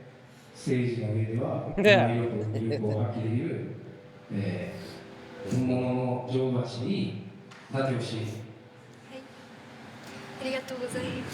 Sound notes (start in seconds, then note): 1.7 laughing; 1.7 speaking in foreign language